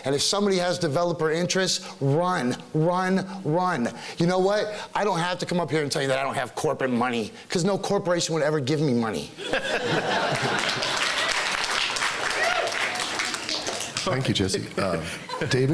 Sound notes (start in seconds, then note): 9.4 laughing; 10.3 clapping